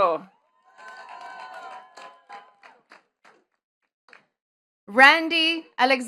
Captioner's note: attendees cheering and clapping